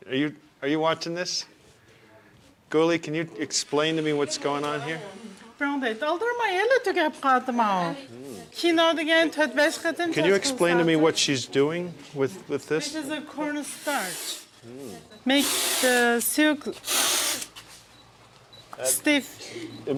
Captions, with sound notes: Are you, are you watching this Gli? Can you explain to me what's going on here? [speaking foreign language] Can you explain to me what she's doing with with this? - This is a corn starch. Make the silk stiff.